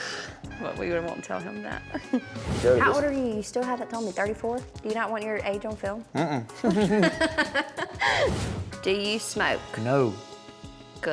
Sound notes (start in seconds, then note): 6.5 both laughing